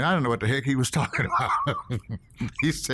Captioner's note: laughs